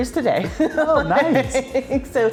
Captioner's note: laughing